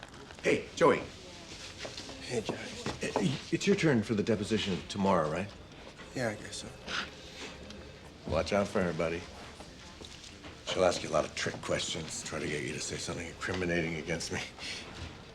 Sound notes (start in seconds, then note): 6.8 gasps